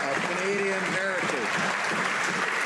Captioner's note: some Applause